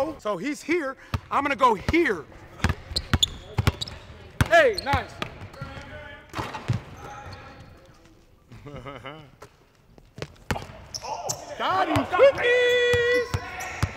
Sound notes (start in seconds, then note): 3.5 ball bounces; 8.5 chuckle